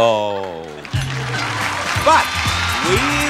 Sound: audience applauds; theme plays

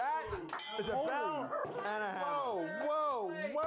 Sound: bell Rings

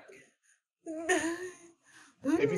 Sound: panic noises

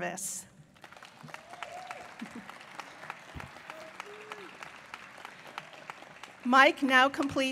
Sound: applause

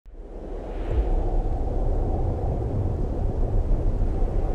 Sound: wind blowing softly

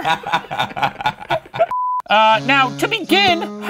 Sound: laughing

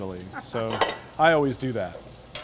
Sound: laughter

